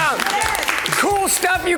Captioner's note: crowd claps and cheers